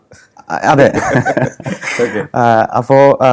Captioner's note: laughs